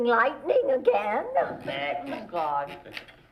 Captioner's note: everyone talking